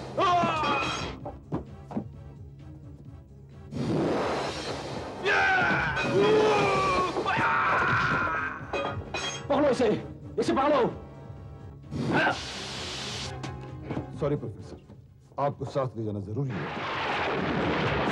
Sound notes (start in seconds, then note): 0.2 groans; 5.3 groans